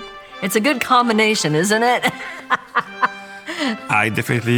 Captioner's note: laughing